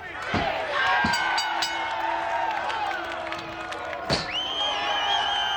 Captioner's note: audience cheers; bell rings; audience applauds and cheers